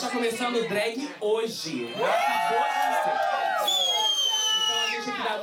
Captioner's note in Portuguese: todos gritam